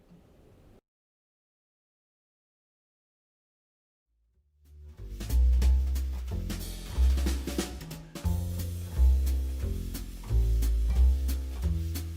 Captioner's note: gavel pounding